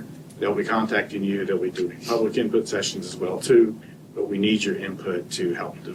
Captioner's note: snorts